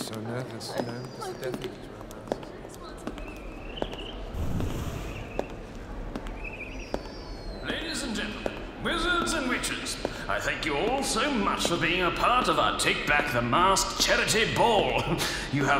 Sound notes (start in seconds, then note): 3.1 footsteps approaching; 4.3 wind whooshing